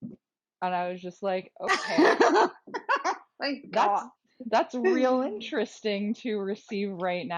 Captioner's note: laughter